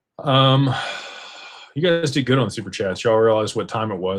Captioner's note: sighs and gasps